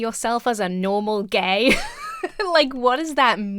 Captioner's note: laughs